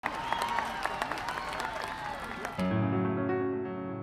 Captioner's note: applause; classical piano music